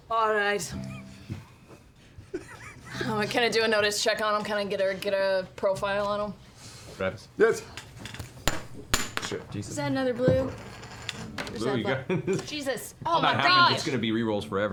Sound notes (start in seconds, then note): 8.5 chip dropping on floor; 12.0 laughter